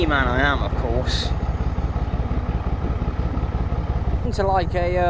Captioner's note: narrowboat engine sounds